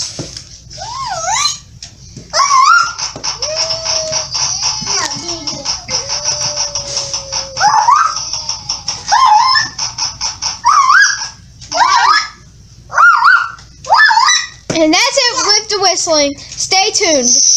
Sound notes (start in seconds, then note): 2.4 whistle; 7.4 lot's of whisling